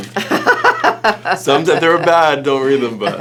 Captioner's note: Judith laughing